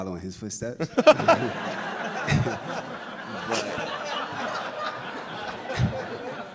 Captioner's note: laughter